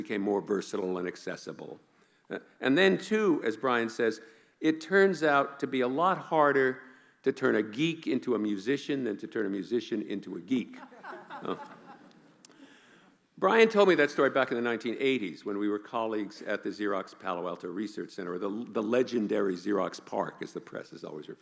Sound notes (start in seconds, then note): 12.4 laughing